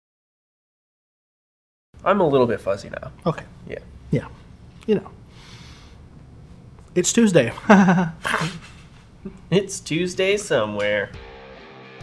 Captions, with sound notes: I'm a little bit fuzzy now. Okay. Yeah. Yeah. You know... It's Tuesday. (awkward laugh) (laughs) It's Tuesday somewhere.